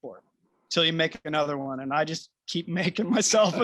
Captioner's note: laughter